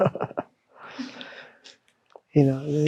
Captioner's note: chuckling